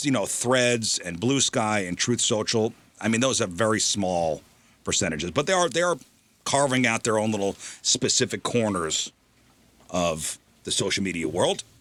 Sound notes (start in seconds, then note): none